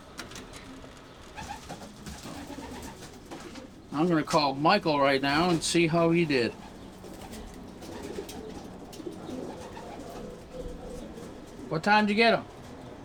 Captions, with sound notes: (pigeons whistling) I'm gonna call Michael right now and see how he did. (pigeons cooing) What time did you get 'em?